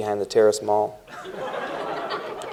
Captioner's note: laughter